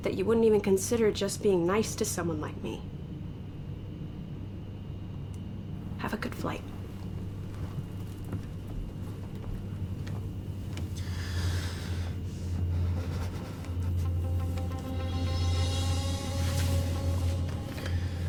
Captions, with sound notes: that you wouldn't even consider just being nice to someone like me. Have a good flight. (Aden sighing and shuddering) (intense instrumental music)